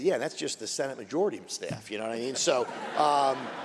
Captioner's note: laughter